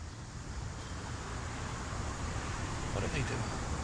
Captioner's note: traffic whirs